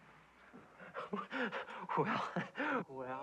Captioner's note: breathless laugh